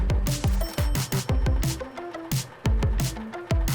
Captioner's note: upbeat music plays with the sounds of a large truck driving; truck braking to a stop and a cash register drawer opening sound effects; truck engine idling